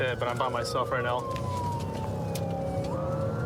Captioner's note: siren blaring